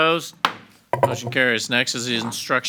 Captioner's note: gavel bangs